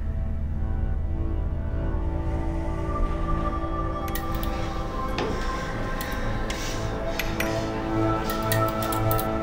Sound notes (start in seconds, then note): 1.2 heavy breathing; 1.2 suspenseful music; 4.1 metal clinking